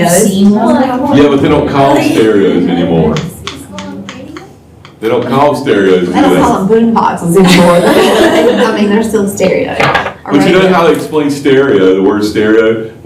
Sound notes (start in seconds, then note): 7.5 laughter